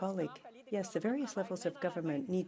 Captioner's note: speaking French